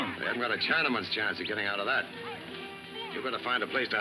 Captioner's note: whistles